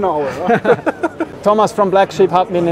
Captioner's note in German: lachen